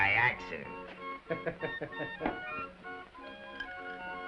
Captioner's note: waiter laughs